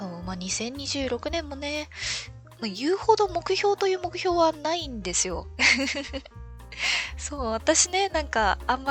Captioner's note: laughs